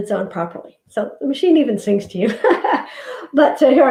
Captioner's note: laughs